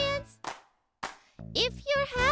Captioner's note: Marvie claps